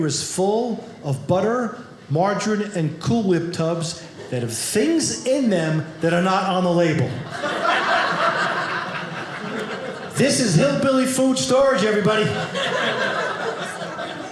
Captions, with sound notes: is full of butter, margarine and Cool Whip tubs, and things in them that are not on the label. (audience laughing) This is hillbilly food storage, everybody. (audience laughing)